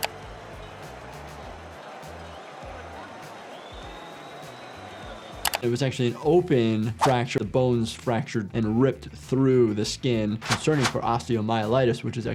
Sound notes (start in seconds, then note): 0.0 crowd cheers; 0.0 upbeat music; 3.4 whistle blows